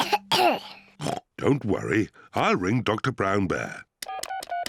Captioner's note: coughs; oinks; beeping